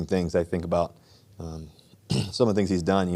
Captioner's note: clears throat